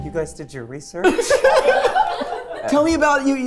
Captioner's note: everyone laughing